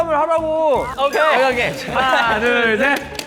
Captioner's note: waaah